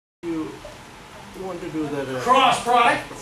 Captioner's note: students speaking